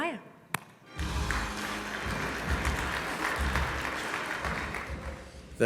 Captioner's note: audience applauds